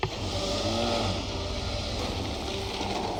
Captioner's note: motorbike power revs